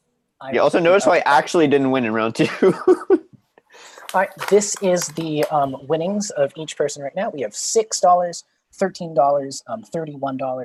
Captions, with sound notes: - You also noticed how I actually didn't win in round two. (chuckling) This is the winnings of each person right now. We have $6, $13, $31, 33 and 36.